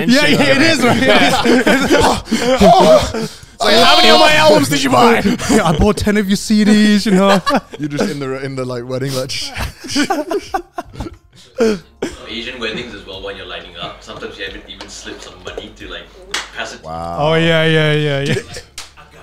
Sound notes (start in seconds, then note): 2.1 grunting